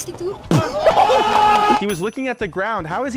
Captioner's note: crowd cheering